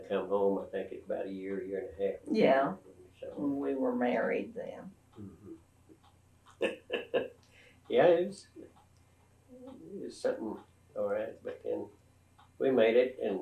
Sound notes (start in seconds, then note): 6.6 laughter